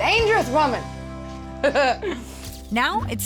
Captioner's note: laughing